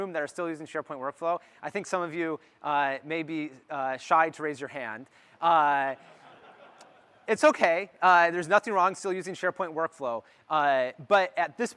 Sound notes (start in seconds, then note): 5.9 laughter